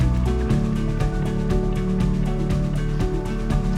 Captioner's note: footsteps